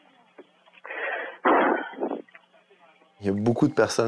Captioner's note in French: soupir